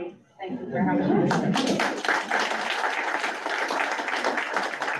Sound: audience claps

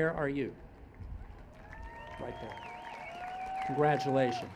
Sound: cheers and Applause

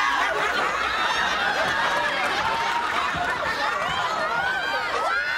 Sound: studio audience laughing

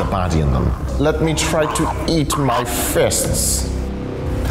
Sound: villain voice

